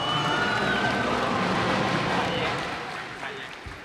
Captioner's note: cheers and applause